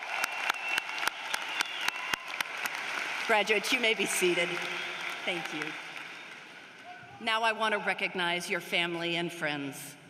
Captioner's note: cheering and applause